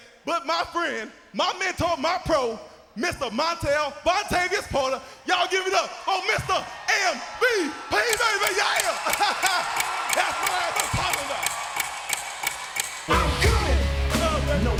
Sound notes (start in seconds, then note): 8.0 clock ticking; 8.6 Percy laughing; 11.6 clock ticking